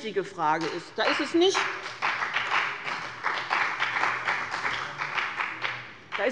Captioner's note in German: Beifall bei dem BÜNDNIS 90/DIE GRÜNEN und der CDU